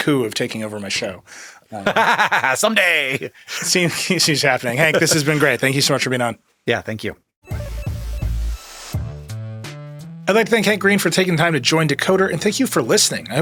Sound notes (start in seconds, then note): 1.8 laughs; 7.4 upbeat electronic music